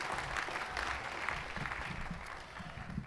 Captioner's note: applause